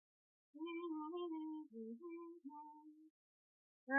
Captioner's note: humming continues